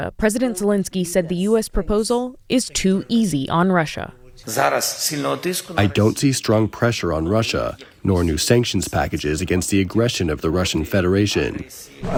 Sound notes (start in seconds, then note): 6.3 through translator